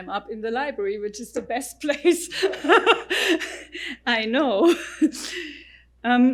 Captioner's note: laughs